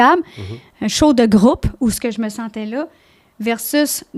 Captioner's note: in french